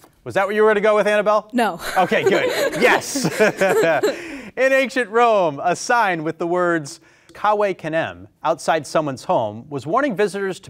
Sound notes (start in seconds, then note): 1.8 laughing